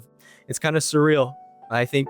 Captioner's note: breathes in